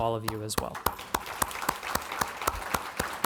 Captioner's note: clapping